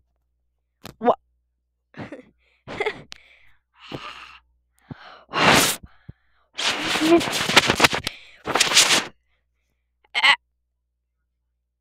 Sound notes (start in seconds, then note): 2.6 laughs